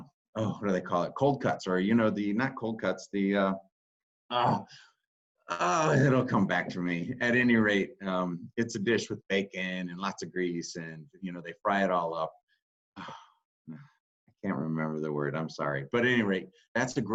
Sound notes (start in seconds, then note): 4.3 groans; 13.0 sighs